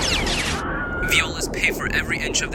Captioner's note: distant scream